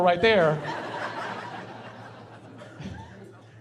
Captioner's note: laughing